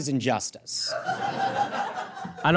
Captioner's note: audience guffaws